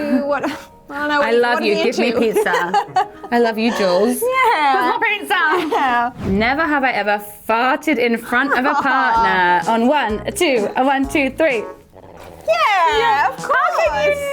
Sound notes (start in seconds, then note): 3.0 laughing; 8.2 laughing